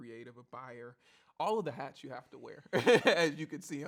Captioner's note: laughs